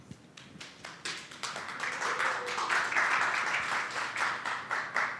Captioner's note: attendees applauding